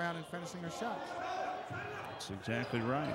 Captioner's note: yelling